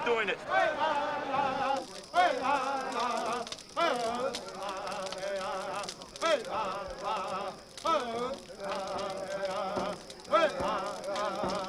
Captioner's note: chanting